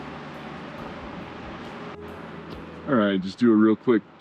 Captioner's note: wind blowing